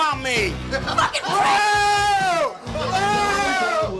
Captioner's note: man yells; laughing and shouting